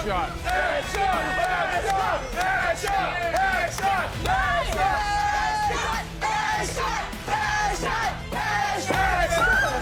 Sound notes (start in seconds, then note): 0.6 crowd; 4.2 dramatic music